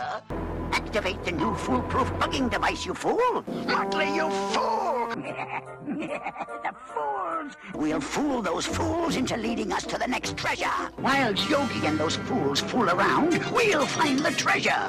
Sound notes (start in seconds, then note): 4.4 laughs